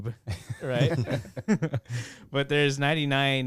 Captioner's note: laughing